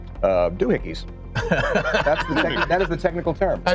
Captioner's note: laughing